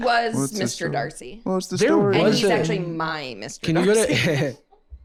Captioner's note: laughs